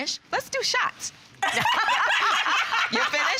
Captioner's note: laughing